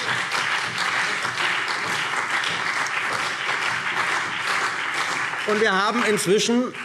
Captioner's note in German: Beifall BÜNDNIS 90/DIE GRÜNEN und vereinzelt CDU